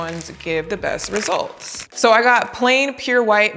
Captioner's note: plastic wrapper buckling